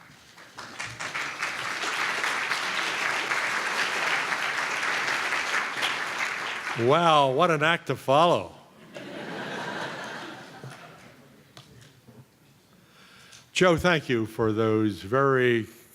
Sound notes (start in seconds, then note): 8.8 laughter